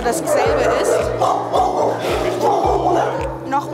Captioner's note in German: Gebell